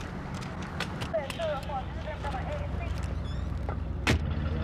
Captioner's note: woman speaking on two-way radio